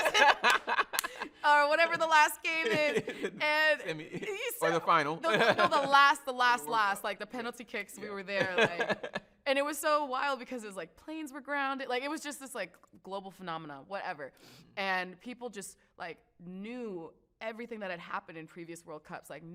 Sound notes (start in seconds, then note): 0.0 both laugh; 2.4 laughs; 8.2 laughs